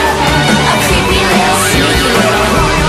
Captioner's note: boing!